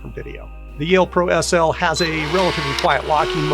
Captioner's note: motor whirring